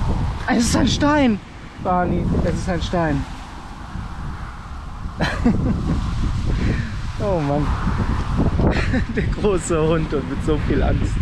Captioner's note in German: lacht